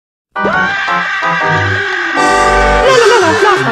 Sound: music Stops; Squidward Scream

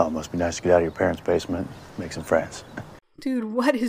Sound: chuckles

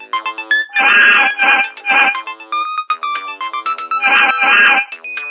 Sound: whining

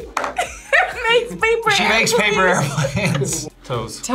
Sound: laughs

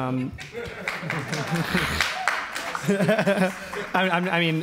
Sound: audience applauds and laughs

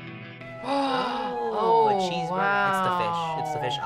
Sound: gasps

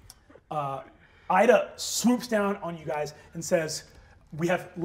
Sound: none

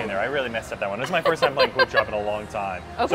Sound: laughs

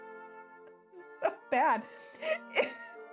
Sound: quietly laughing

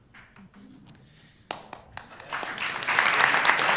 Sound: applause

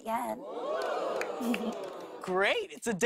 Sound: audience oohs

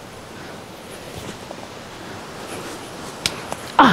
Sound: wind

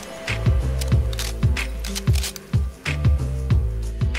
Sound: gun shots blaring; gun cocks; serene techno music

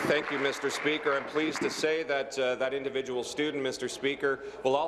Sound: applause

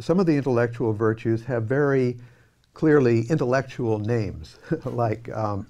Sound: laughing

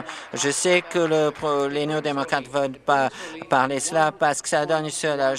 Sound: applause

